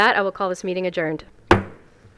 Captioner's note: gavel hitting dais